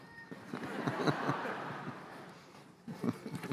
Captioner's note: laughter